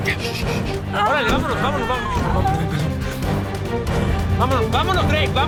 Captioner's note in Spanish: Quejidos